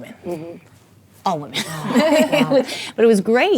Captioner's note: laughing